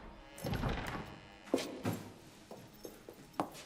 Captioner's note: door squeaks